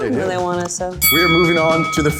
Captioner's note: bell dings